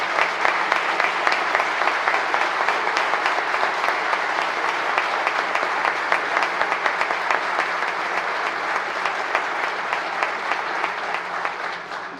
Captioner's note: applause